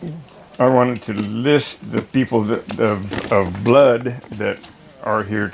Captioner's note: none